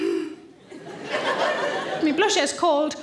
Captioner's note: audience laughing